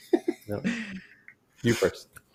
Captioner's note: chuckles